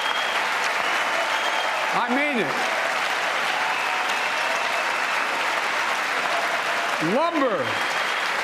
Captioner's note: cheers and applause